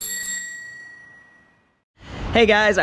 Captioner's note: bell rings